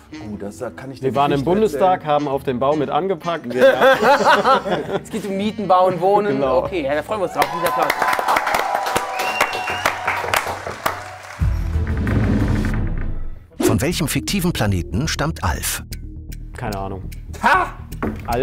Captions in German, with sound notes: Wir waren im Bundestag, haben auf dem Bau mit angepackt. Es geht um mieten, bauen, wohnen. Okay, da freuen wir uns drauf. (Jubel, Applaus) (Spannungsvolle Musik) Keine Ahnung. - Ha?